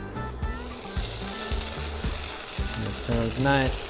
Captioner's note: oil sizzling